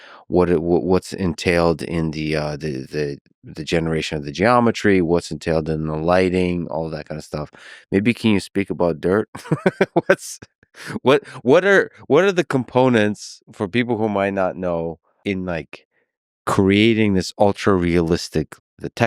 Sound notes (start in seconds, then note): 9.3 laughs